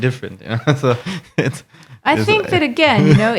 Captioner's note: laughing